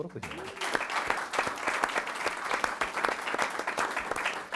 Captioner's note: all clapping